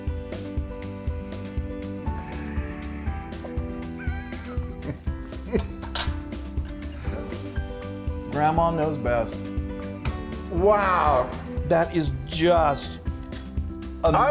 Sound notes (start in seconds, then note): 0.3 cheerful music plays; 1.4 gasping and laughing